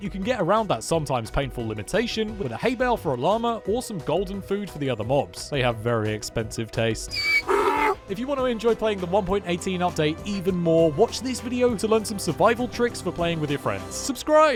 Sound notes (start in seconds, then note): 7.1 donkey sound